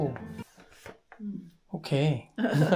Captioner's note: silence